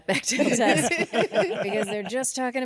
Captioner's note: all laugh